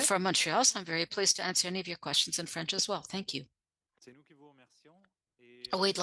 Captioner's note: speaking French